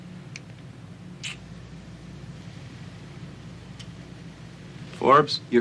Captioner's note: Casey clicks tongue